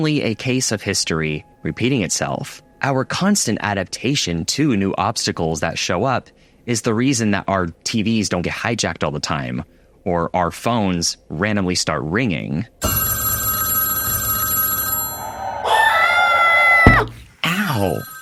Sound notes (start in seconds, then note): 17.5 scream; 18.0 phone ringing